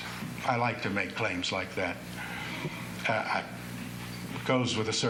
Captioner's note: none